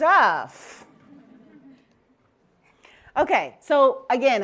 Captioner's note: laughter